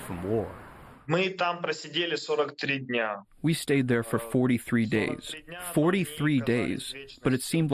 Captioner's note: through translator